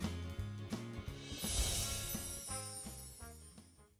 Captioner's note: chiming